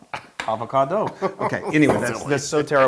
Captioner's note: laugh